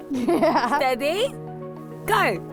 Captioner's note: laughs